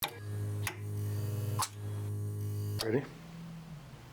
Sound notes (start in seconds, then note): 0.0 monitor buzzes; 1.5 switch clicks